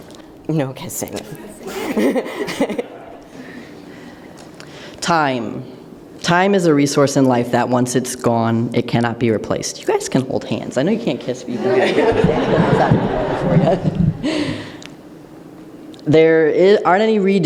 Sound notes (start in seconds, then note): 1.2 laughing; 14.6 laughter